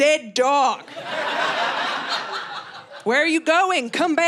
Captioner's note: audience laughing